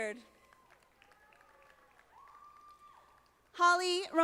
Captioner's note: audience applauding